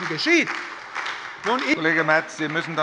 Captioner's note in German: Beifall bei der SPD